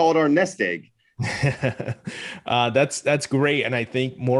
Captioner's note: laughs